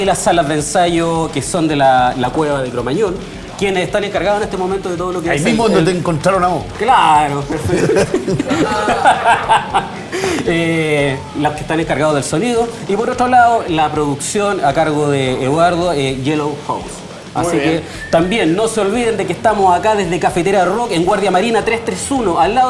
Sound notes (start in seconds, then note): 7.4 laughter